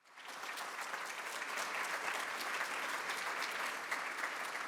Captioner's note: applause